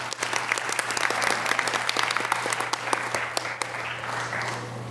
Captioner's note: audience applause